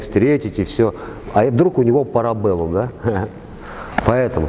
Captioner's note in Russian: Смеётся